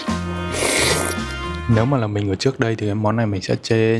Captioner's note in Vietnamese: khịt mũi